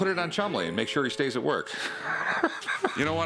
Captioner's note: laughs